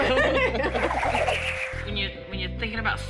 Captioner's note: both laugh